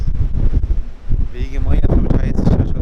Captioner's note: sound of waves!